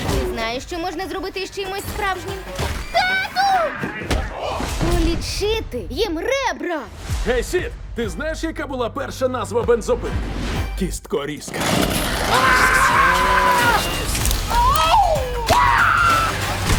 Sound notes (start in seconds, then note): 12.1 screaming; 14.4 clown groans; 14.4 fighting whoops